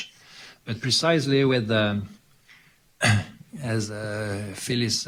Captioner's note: clears throat